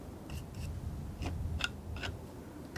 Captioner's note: tapping